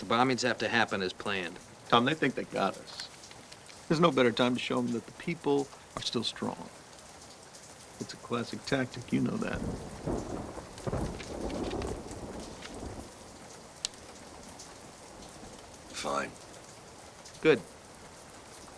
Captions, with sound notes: but the bombings have to happen as planned. - Tom, they think they got us. There's no better time to show 'em that the people are still strong. It's a classic tactic. You know that. (thunder rumbling) (rain pattering) - Fine. - Good.